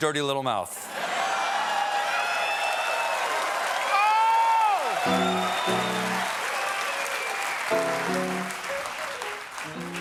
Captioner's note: cheers and applause